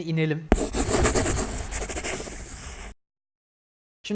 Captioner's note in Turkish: Kalemle çizme sesi